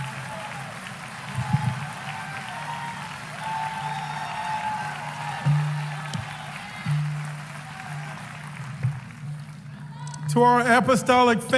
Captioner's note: applause